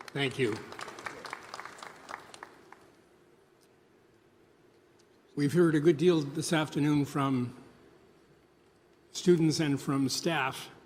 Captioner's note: applause